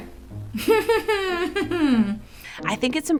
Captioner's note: laughs sardonically